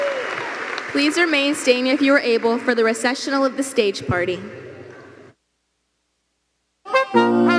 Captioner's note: applause